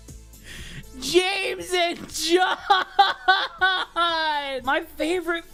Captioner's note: sobbing